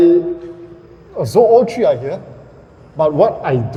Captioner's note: aircon compressors